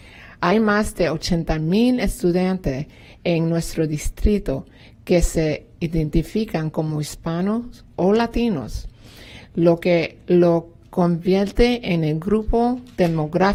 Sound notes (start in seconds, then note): 0.9 speaking spanish